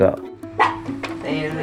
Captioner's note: dog barks